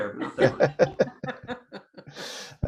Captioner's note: laughter